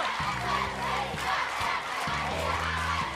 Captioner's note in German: Anfeuernde Rufe